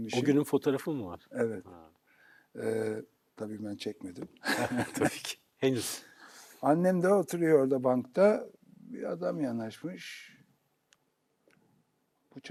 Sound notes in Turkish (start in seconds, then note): 4.4 kahkaha; 5.9 homurdanır